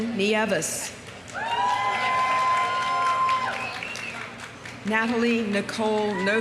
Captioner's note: audience applauding; audience cheering